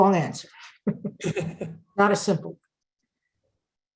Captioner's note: both chuckling